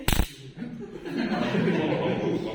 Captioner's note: laughter